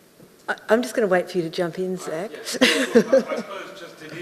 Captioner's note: laughs